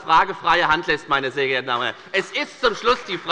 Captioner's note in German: Beifall bei der FDP